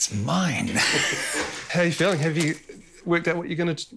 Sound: laughs

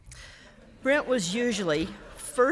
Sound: audience chuckling

